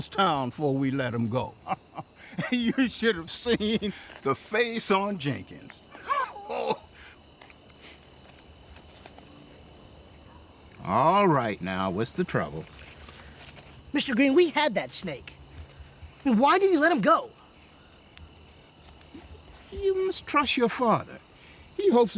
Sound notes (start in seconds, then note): 5.8 laughing